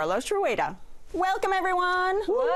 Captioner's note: all cheering